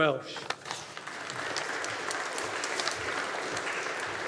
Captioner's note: audience applauding